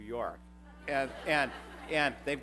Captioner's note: laughter